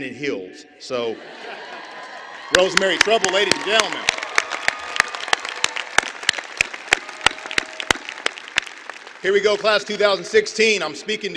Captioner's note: applause